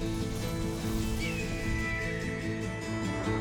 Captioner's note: hawk screeches